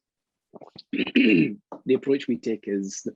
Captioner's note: clears throat